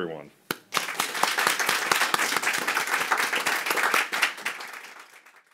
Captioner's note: audience applauding